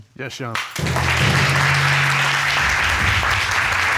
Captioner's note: audience applauding